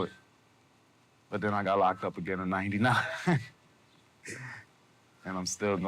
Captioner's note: laughing